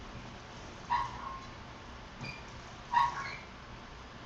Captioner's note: metal creaking